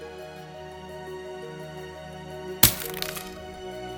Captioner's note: cup breaking